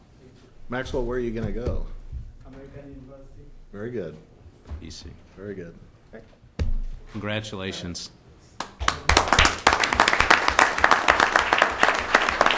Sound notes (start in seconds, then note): 10.4 applause